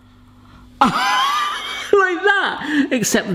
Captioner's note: laughing